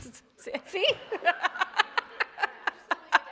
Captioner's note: laughing